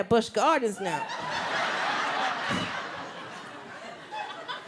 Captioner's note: audience laughs